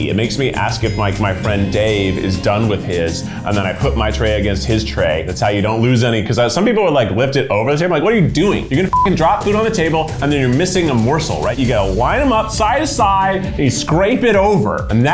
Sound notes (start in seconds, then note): 8.9 beep